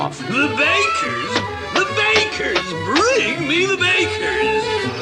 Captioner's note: none